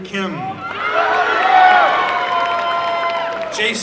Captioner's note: applause and cheering